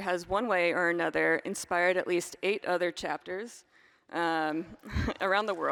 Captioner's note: applause